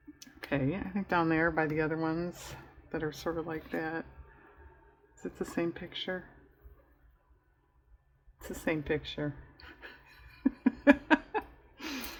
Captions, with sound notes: okay i think down there by the other ones that are sort of like that is it the same picture? it's the same picture (laughs)